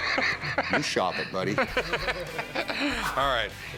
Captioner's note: laughter